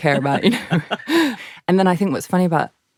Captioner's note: laughs